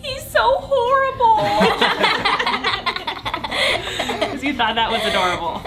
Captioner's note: laughing